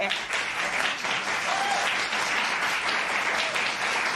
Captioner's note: cheers and applause